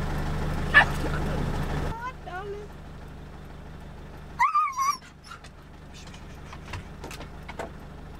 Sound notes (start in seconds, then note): 4.4 Caesar is howling in the background. It looks like he likes to hunt monkeys